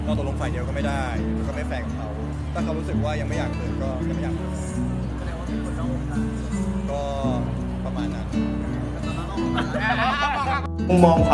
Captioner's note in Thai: หัวเราะ